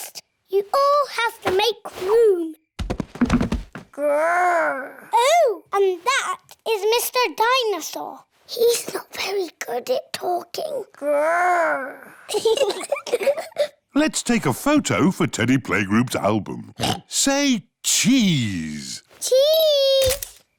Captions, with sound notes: You all have to make room. -"Grr!" -Oh, and that is Mr. Dinosaur. -(WHISPERS) He's not very good at talking. -"Grr!" (BOTH GIGGLE) Let's take a photo for Teddy Playgroup's album. (OINKS) Say cheese! Cheese!